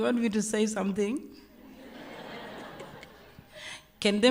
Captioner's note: laughter